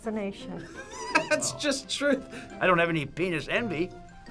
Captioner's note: React laughs